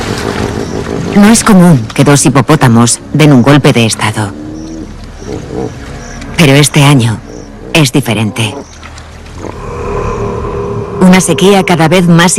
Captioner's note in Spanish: gemido